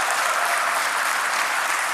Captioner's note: applause